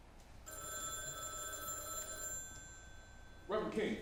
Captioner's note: phone rings